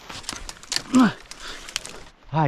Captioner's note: twigs snapping; grunting